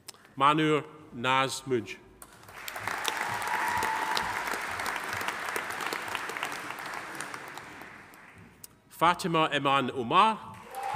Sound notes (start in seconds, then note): 2.4 audience applauding; 2.6 audience cheering